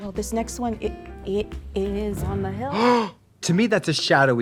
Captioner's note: jazzy music; Trixie gasps